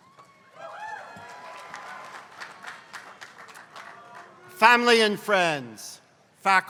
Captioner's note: applause